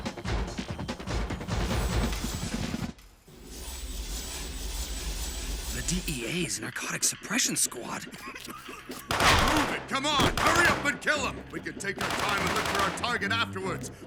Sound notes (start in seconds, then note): 8.2 coughs; 9.0 gunshots